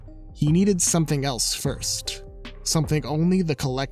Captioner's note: none